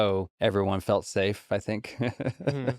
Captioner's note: laughs